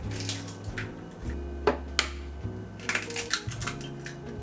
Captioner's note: egg cracking